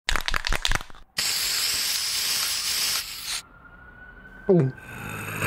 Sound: spraying sounds

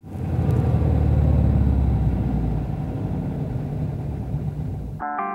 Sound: car engine humming; soft rock music

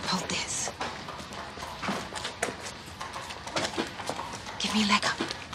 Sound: hoof beats approach

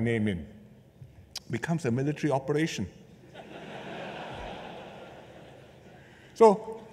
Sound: laughter

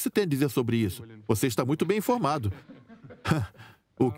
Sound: laughs

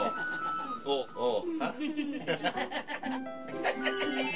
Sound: laughter

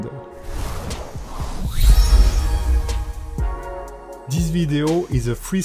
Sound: lively music; logo whooshing

